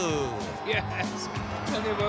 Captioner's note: chuckles